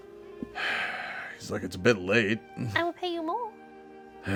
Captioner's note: sighs